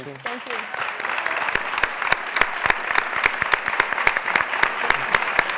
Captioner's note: applause